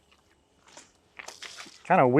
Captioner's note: water splashing